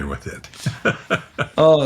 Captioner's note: laughing